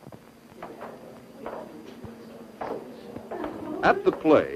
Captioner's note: students murmuring